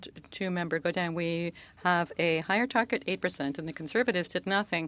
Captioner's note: speaking French